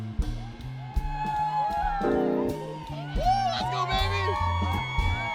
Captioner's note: students cheering and screaming